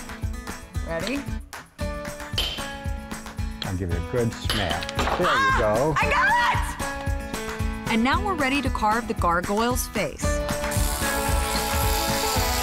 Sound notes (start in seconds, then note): 2.9 clanking